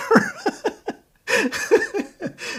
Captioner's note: laughing